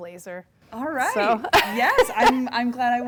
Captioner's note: laughing